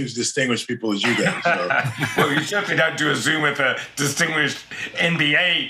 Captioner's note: laugh